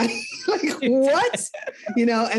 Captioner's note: laughs